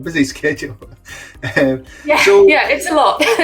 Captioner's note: both laughing